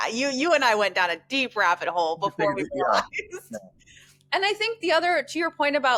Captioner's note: laughs